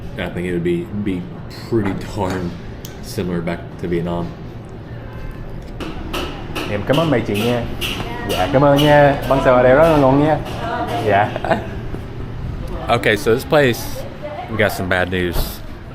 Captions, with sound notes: I think it would be be pretty darn similar back to Vietnam [speaking Vietnamese] [speaking Vietnamese] Okay, so this place, we got some bad news